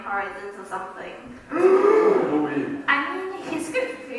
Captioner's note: gasps